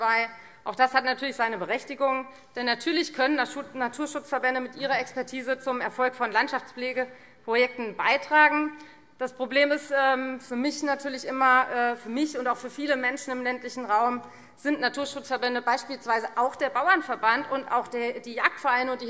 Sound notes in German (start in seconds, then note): none